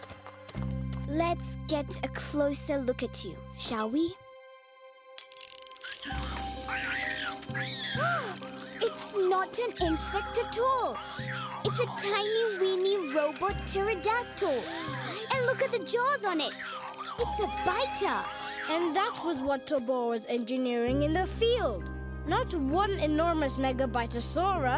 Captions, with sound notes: Let's get a closer look at you, shall we? (screeching) (Sema gasps) It's not an insect at all! It's a tiny, weeny robot pterodactyl! And look at the jaws on it! It's a biter! - And that was what Tobor was engineering in the field! Not one enormous Mega Bitosaurus,